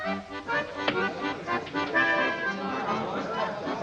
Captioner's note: accordion music; dart thunks; accordion music; faint chatter